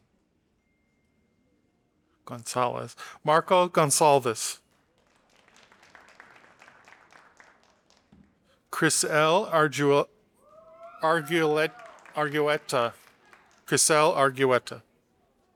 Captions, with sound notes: Gonzalvez. Marco Gonzalvez. (audience applauding) Chriselle Arguetta. (audience applauding) Chriselle Arguetta.